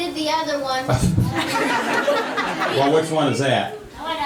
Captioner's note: laughing